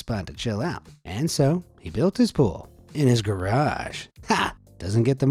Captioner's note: laughs